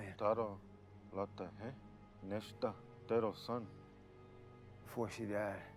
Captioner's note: speaking in foreign language